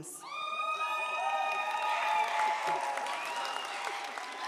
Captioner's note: audience cheers